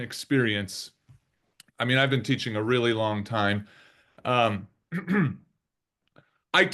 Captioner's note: clears throat